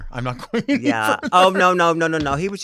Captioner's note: chuckles